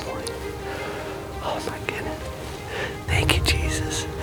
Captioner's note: whispering